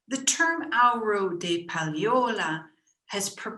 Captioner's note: speaking in foreign language